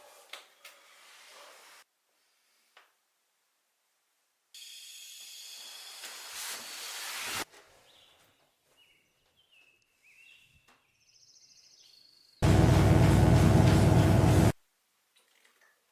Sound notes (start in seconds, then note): 5.0 gas hissing; 8.7 birds chirping; 12.4 electric buzzing